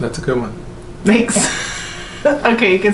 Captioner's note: laughs